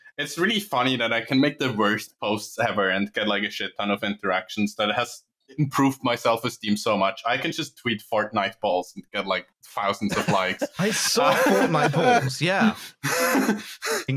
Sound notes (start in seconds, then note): 10.0 laughter